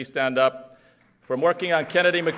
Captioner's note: applause